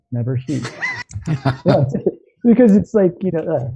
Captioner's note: laughter